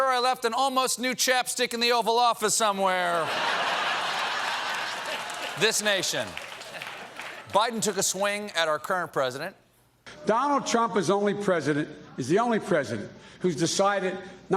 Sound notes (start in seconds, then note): 6.6 applause; 6.6 laughter